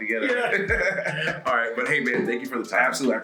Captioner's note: laugh